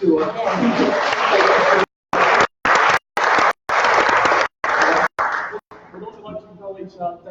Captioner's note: applause